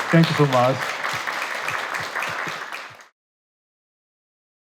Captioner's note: attendees applauding